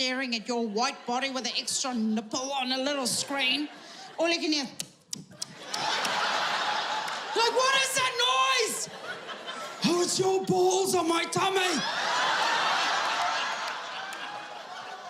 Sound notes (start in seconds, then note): 5.1 lips puckering; 11.9 audience laughing